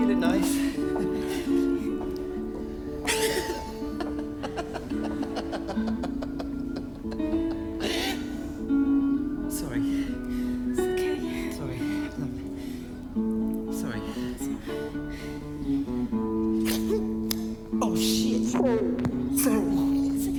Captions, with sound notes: You look nice. Thank you. [laughs] Sorry. It’s okay. Sorry... Sorry... That’s alright. Oh shit, sorry, sorry…